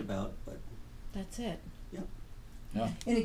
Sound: voiceover

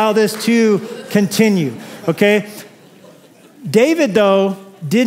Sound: laughter

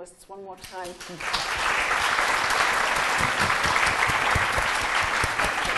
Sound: audience applauding

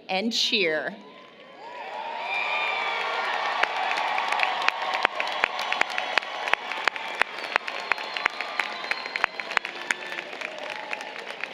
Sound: applause, Cheering

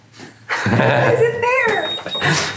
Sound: laughing

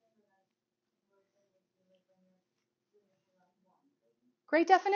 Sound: student continues speaking faintly

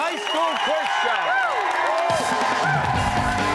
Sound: cheers and applause

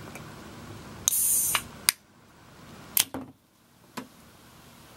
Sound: can fizzing

